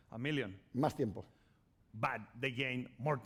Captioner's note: speaking spanish